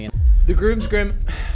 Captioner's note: sighs